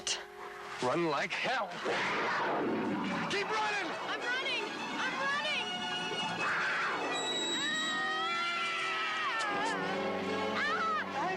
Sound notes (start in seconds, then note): 2.7 tribesmen growling; 6.9 dramatic music; 6.9 tribesmen growling; 8.1 Carrie screaming; 10.5 screaming